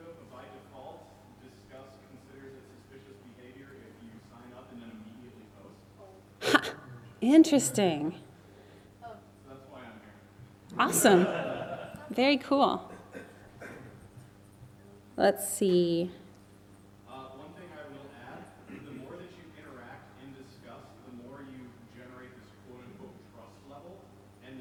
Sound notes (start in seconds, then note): 10.8 audience laughs